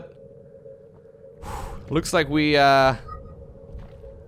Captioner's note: exhales